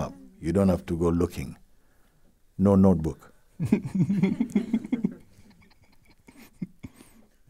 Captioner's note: laughter